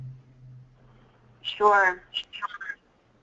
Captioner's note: voiceover